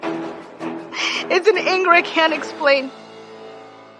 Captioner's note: dramatic music; sobs